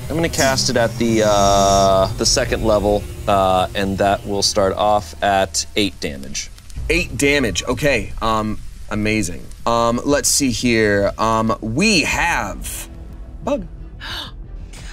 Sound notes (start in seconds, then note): none